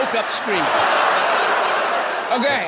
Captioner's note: people laughing